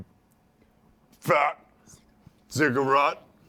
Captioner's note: whispers